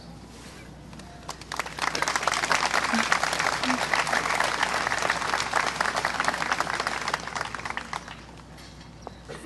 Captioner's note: clapping